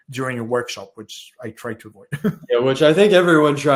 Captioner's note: laughs